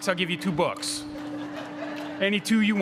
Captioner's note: crowd laughing